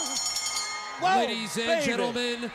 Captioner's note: bell ringing